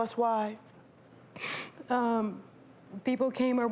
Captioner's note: sniffles